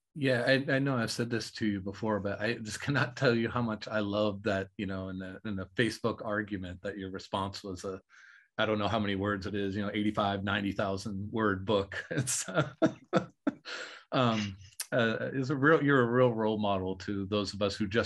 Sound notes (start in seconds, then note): 11.4 laughing